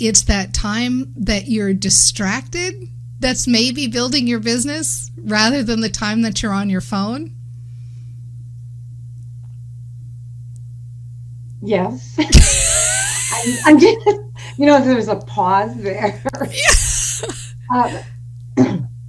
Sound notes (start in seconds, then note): 12.3 laughing